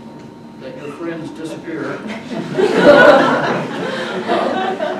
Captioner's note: audience laughs